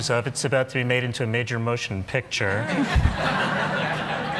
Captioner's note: laughter